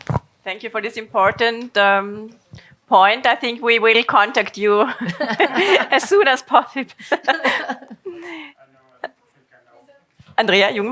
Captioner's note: laugh